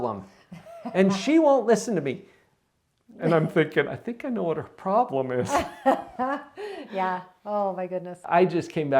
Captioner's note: laughs